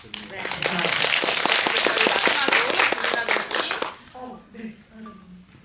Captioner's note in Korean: 박수